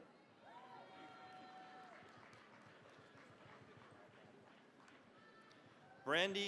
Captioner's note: cheering, applause